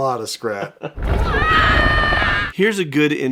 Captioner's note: yells